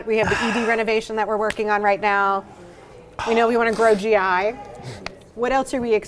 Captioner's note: none